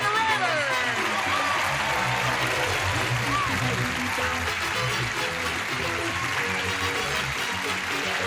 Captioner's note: applause, theme music